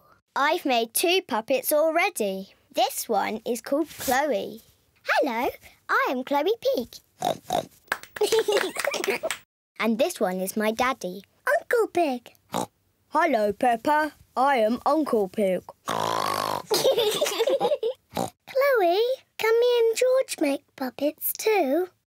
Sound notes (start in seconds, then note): 7.2 oinks; 8.2 both giggle; 12.5 oinks; 13.1 in deep voice; 15.8 oinks loudly; 16.6 both giggle; 18.1 oinks